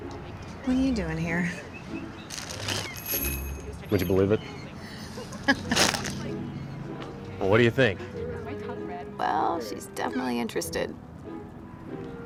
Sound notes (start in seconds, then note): 4.2 laughing